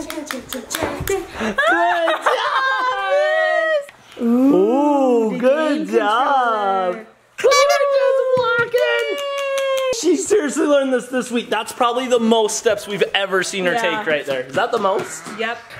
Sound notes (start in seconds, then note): 1.2 laughs